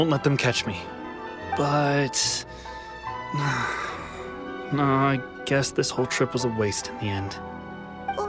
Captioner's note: sigh